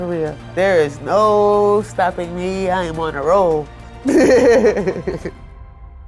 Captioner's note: chuckling